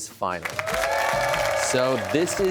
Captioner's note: cheers and applause